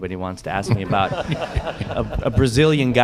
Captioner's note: laughter